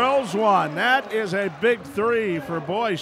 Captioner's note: cheering